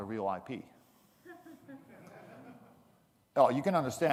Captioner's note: audience laughing